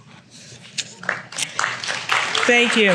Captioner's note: applause